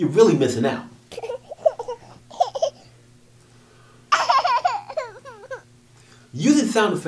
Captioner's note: sound of baby crying